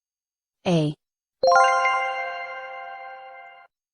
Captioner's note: a, "correct sound"